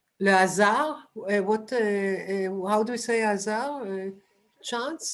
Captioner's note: non-english; non-english